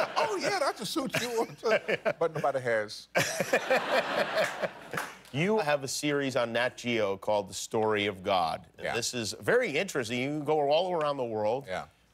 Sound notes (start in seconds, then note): 5.5 laughter